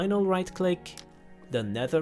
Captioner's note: click